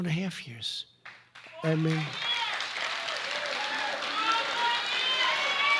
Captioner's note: applause